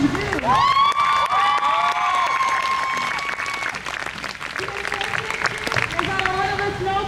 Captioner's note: crowd cheers